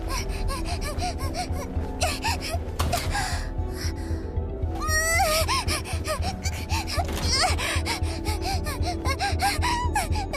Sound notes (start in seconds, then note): 0.1 whimpering frantically; 4.6 exclaims angrily; 4.6 panting